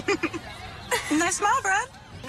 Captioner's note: laughing